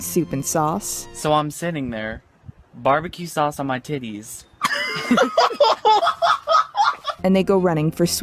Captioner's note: hysterical laughter